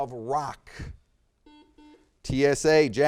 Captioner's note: buzzer beeps